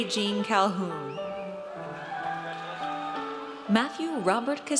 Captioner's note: audience cheers